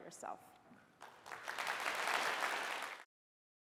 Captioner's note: applause